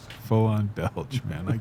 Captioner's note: laughs